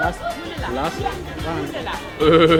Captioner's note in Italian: Inglese